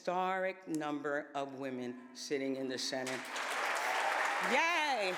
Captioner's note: applause